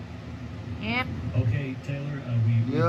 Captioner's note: on TV